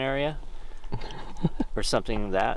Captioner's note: chuckles